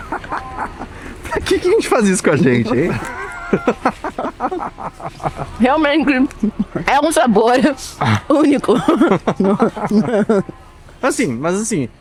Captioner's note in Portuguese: risadas; risadas